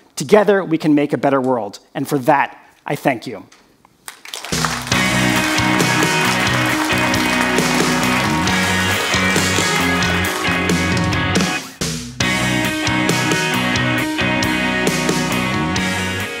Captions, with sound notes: Together, we can make a better world, and for that, I thank you. (audience applauding) (exciting rock music)